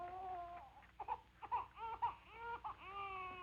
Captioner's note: baby crying